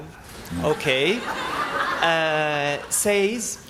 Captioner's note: laughter